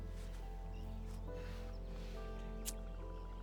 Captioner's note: lighter clicks on